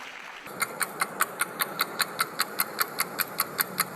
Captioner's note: clock ticking